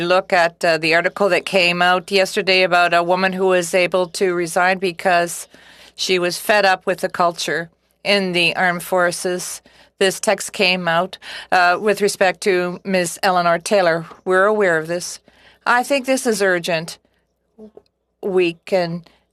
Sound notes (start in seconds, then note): 2.6 speaking French